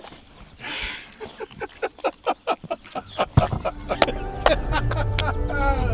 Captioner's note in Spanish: risas